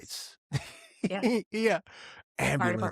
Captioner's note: laughing